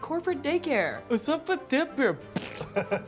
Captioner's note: fart noise